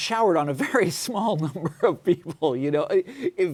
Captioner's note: laughs